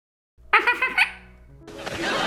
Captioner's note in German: kichern